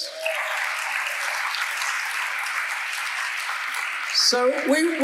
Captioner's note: audience applauding